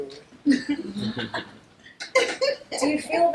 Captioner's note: background chuckles